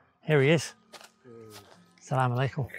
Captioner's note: man speaking in foreign language; speaking in foreign language